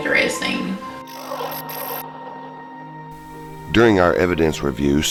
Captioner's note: static fizzing